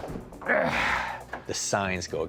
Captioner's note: yells, grunts